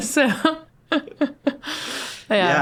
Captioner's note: laughing